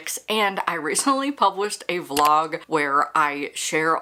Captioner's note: mouse click